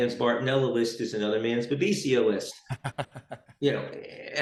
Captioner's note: laughs